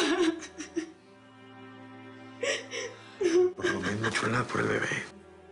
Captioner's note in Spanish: Solloza